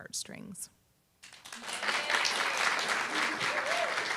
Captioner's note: applause, cheer